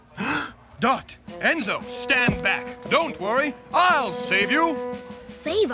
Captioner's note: gasps